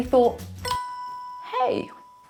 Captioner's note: chime sound